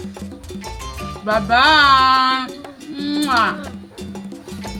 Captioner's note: kisses